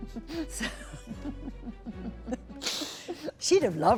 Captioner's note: laughter